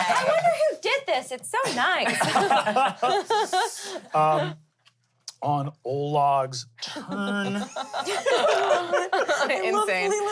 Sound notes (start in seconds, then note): 4.7 laughs; 7.3 everyone laughs